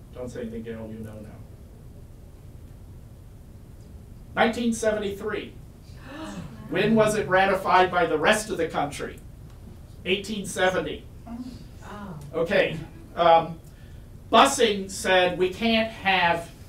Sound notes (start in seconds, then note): 5.9 audience gasps